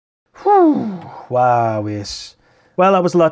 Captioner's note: phff